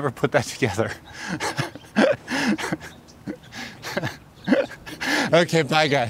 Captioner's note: laughs